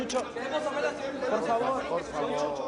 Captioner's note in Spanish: Hablan al unísono